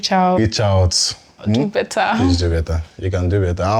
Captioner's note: laughs